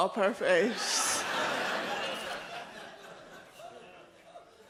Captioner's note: audience laughs